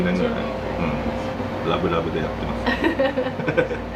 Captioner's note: laughs